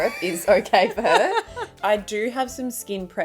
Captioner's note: laughing